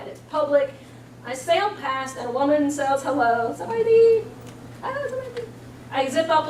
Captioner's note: speaking Lao